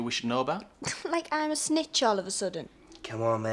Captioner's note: scoffs